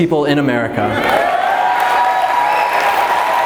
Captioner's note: crowd cheers